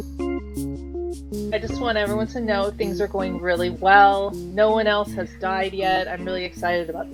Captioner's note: stompy